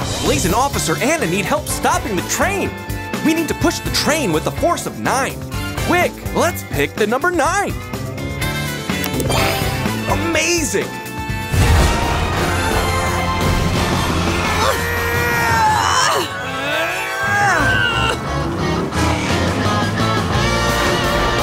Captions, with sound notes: Blaze and Officer Anna need help stopping the train. We need to push the train with the force of nine. Quick! Let's pick the number nine. Amazing. [straining]